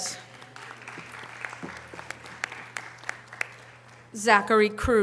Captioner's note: audience applause